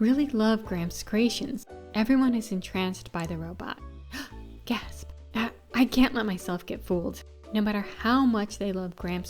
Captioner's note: gasp